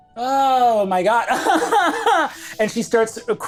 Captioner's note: crying